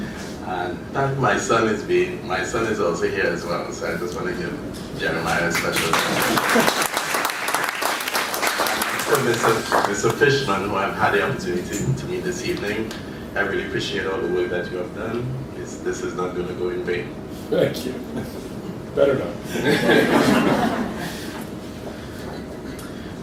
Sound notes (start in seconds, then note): 5.3 applause; 19.4 laughter